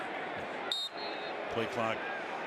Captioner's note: whistle